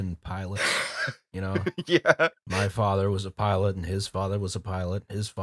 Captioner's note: laughter